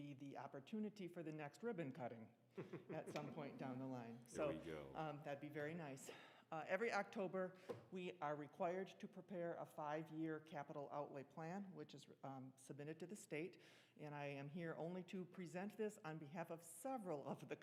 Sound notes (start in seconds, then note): 2.6 laughing